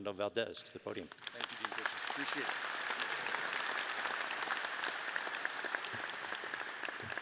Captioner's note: audience applause